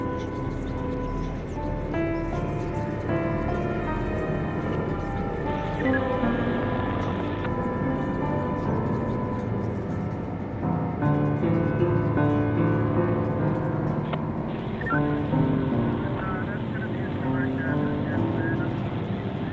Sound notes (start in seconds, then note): 4.4 sirens; 5.6 radio beeps